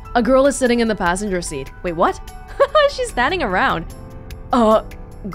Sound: chuckles

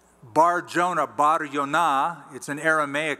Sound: non-english

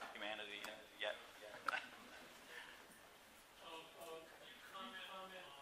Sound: chuckles

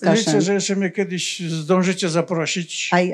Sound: foreign language

